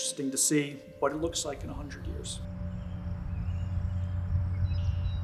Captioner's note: birds singing